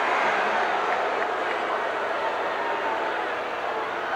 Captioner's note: crowd boos